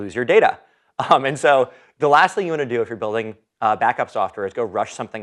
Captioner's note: laugh